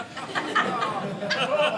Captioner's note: audience laughing